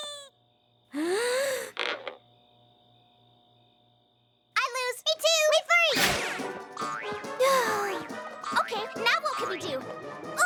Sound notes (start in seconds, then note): 0.9 inhales deeply; 1.6 creak!; 7.0 sighs